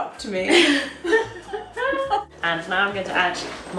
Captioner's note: both laugh